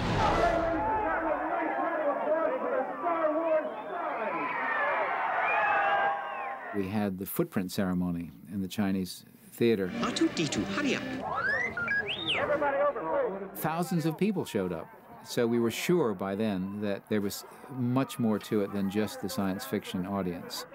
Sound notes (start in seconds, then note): 0.0 all Clamoring; 4.1 cheering; 9.9 beep Beep